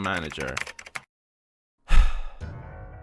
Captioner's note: breaths